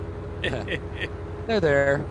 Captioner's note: laughs